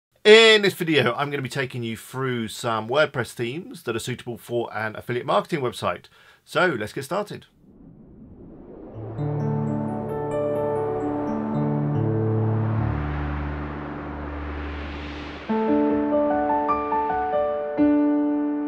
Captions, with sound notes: - In this video, I'm gonna be taking you through some WordPress themes that are suitable for an affiliate marketing website. So, let's get started. (swooshing) (chiming piano music) (lively piano music)